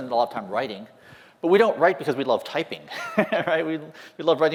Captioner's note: laughter